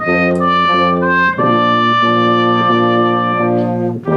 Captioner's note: none